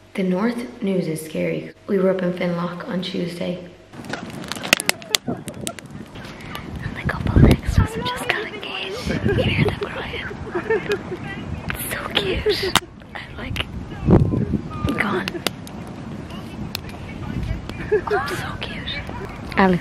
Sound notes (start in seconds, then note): 4.2 fire cracking; 16.8 laughing in distance